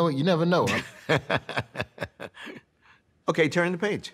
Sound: laughs

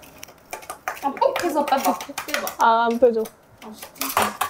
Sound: scratch scratch

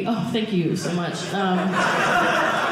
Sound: audience laughing

